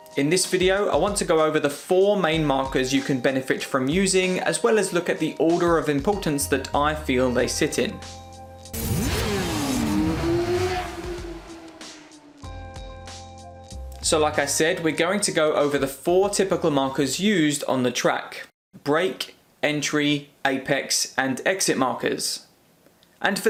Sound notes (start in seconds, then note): 8.7 motorcycle engine revving